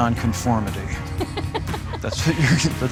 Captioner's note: laughs